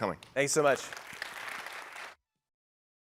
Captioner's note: applause